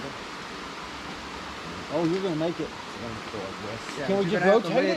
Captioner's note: gravel scrapping sounds